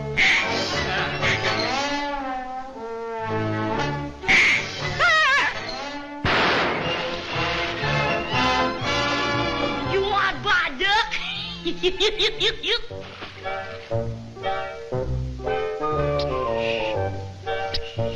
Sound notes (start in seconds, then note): 4.2 all quack; 5.0 Porky shouts; 6.2 bang